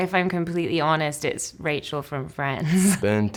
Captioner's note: laughs